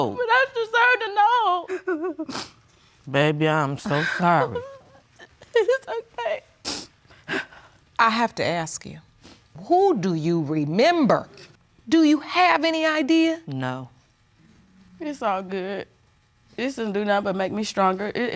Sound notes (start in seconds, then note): 6.6 sniffling